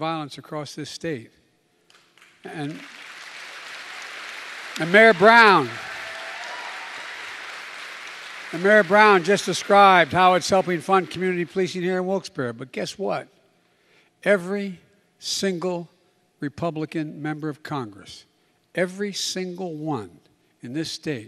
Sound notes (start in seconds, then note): 7.4 applause